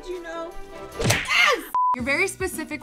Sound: impact sound; short beep

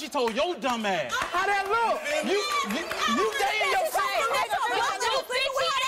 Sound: yelling

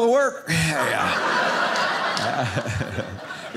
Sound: audience laughing

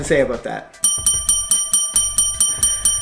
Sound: bell dinging

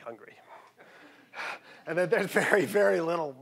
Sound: audience chuckling

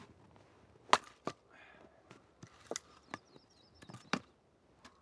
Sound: wood banging

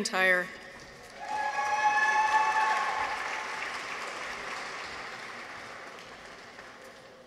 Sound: people cheer; audience applauds

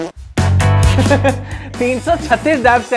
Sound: chuckles

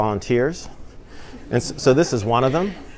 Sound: laughter

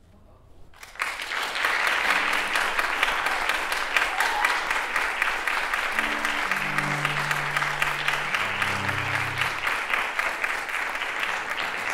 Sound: applause

